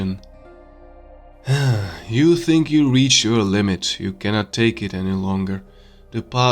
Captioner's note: sigh